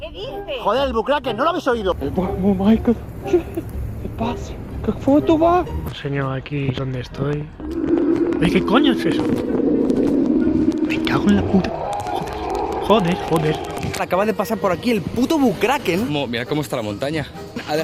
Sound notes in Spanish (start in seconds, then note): 7.6 gruñido lejano; 11.8 gruñido acercándose